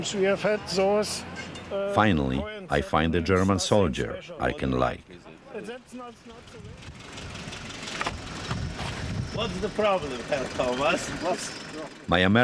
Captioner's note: voice-over